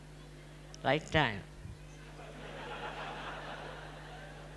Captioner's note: little laughter as a dog walks on stage; more laughter